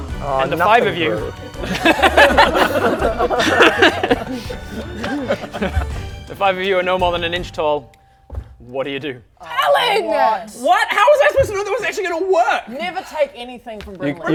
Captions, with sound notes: - Aww nothing grew - and the five of you *giggles* the five of you are no more than an inch tall what do you do? ALAN!!! WHAT? HOW WAS I SUPPOSED TO KNOW that was actually gonna WORK?? never take anything from Brynley